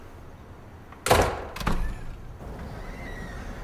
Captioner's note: door slams